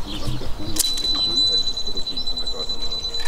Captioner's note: beeps